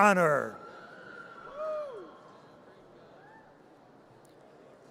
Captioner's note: audience cheers